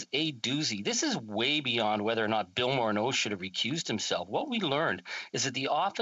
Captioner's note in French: voix de l'interprète